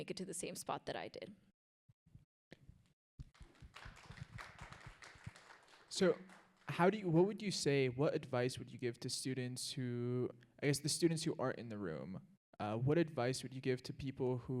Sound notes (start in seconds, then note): 3.3 audience applauds